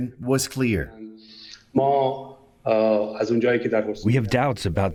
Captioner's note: through translator